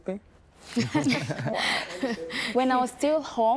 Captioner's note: laughter